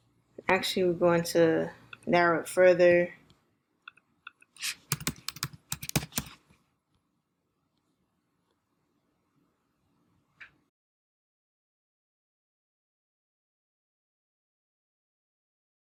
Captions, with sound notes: Actually, we're going to narrow it further. (keys clicking)